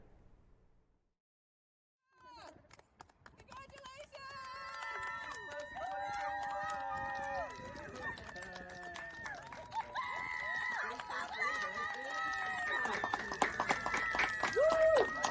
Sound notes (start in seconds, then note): 2.3 clapping and cheering